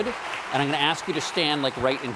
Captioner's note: applause